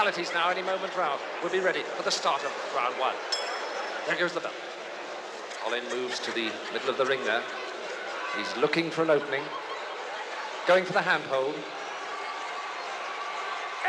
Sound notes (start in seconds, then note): 3.3 bell dings; 11.5 yells